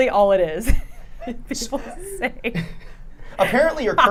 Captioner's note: laughing